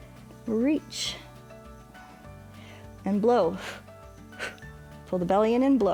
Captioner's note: short exhales